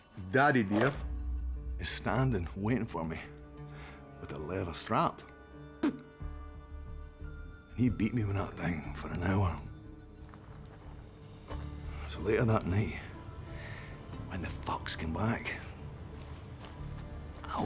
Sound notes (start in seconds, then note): 5.8 spits